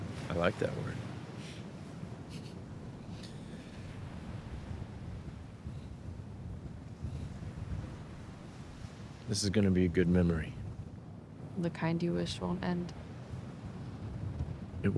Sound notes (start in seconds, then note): 3.2 laughs; 4.4 waves continue crashing